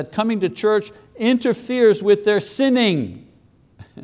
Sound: chuckles

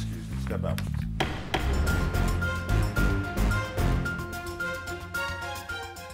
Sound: dramatic music; gavel bangs

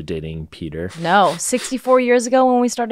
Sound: laughs

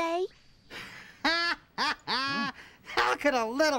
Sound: laughs loudly

